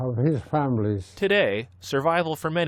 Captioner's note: voice-over